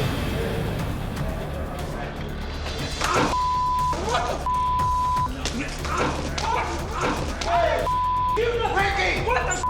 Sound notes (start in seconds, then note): 2.8 grunting; 7.0 shouting